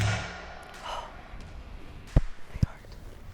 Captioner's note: gasps